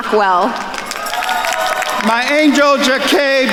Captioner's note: attendees cheering and applauding